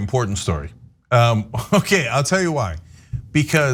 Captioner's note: laugh